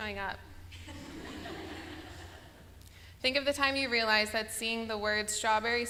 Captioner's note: laughter